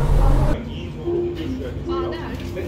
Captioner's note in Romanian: Voci pe fundal